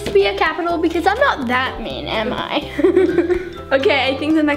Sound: laughs

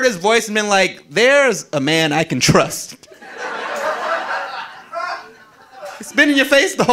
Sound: audience laughing

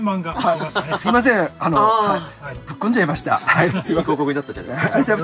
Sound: laughs

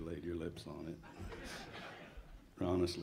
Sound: audience laughs

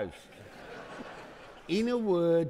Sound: audience laughing

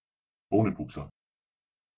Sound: fast Pronunciation

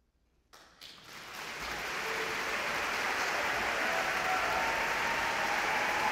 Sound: audience clapping; audience cheering

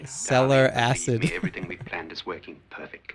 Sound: chuckles

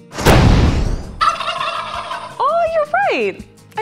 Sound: explosion; Thaddeus gobbles

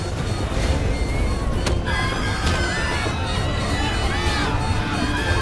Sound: machine beeping; passengers screaming; intense music

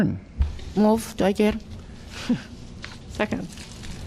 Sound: laughter

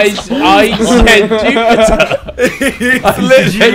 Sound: students murmur

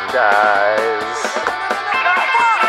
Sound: android dying noises

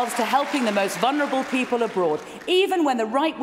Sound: cheering & Applause

